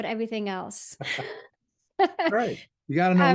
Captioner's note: laughs